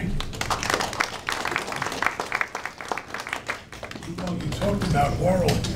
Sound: audience applauding

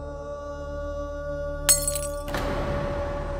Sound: glass breaks

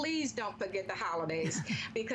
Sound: laughter

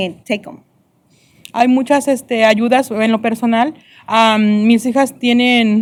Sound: speaking spanish

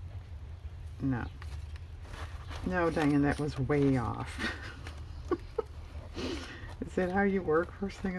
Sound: laughs

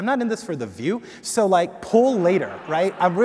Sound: audience laughing

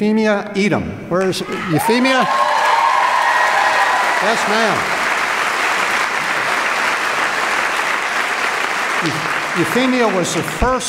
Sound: applause

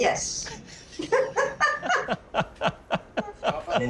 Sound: laughs

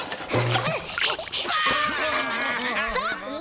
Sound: gasping; laughing

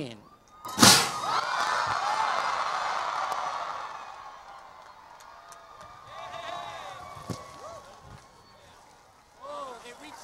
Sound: cheering and Applause

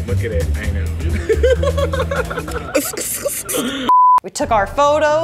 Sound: laughter

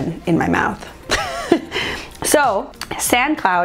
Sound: laughs

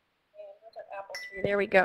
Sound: voiceover

